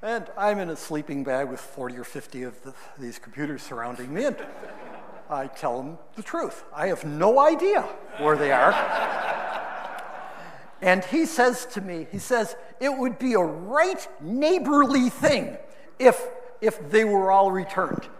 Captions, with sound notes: And I'm in a sleeping bag with 40 or 50 of these computers surrounding me, and I tell him the truth. I have no idea where they are. (audience laughing) And he says to me, he says, it would be a right, neighborly thing if they were all returned.